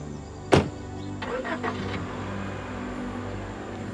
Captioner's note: engine fires up